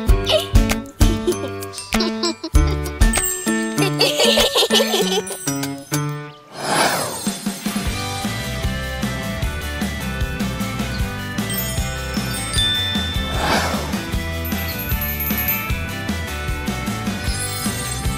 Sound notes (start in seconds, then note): 0.1 girls laughing; 3.8 light, whimsical music; 7.6 bright tropical music; 11.3 bell ringing; 15.3 twinkling music